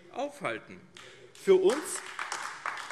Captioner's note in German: Beifall AfD